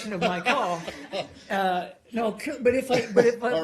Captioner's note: laughter